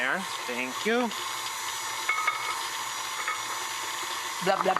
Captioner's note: mixer whirring